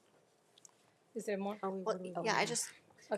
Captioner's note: trustee speaking faintly